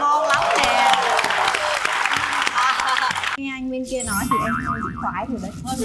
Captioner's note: applause